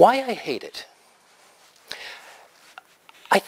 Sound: pause

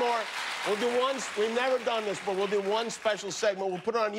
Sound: cheers and applause

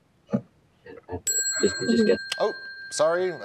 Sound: bell ringing

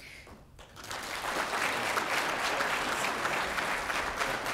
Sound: applause

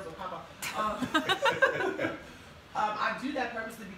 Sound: laughing

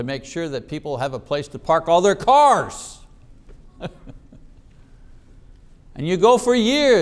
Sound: chuckling

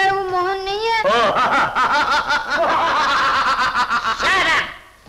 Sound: laughing

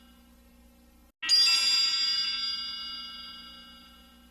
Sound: twinkling

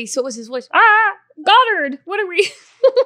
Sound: laughs

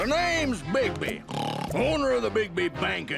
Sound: snorts

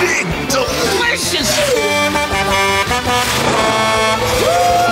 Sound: Blaze honking

